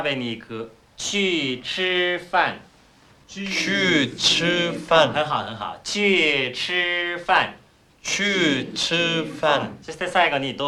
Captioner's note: speaking Chinese